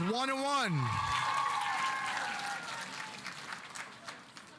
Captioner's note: audience applauding